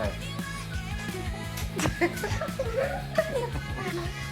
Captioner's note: laughs